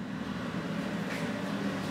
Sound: engine whirr

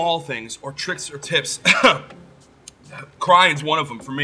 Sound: laughs

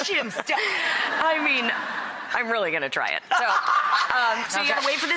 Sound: laughter

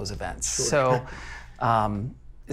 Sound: laughing

